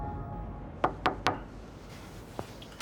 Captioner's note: knocking